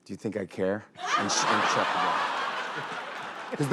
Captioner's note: laughter